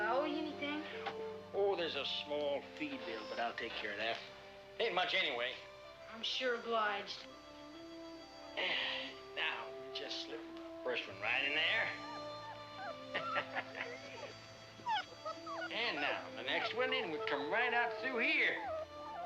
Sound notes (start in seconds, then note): 11.4 puppy whimpering; 13.0 man laughs